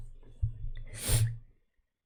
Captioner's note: sniffs